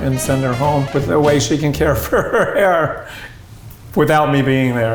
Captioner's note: laughs